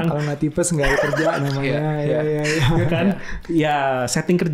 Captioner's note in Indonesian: tertawa